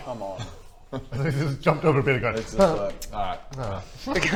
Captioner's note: urrh